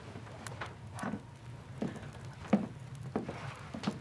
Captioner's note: footsteps